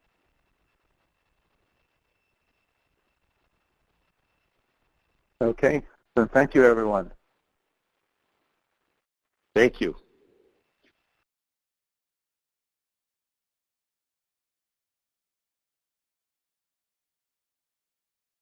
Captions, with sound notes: - [Voiceover] Okay, so thank you everyone. - [Voiceover] Thank you.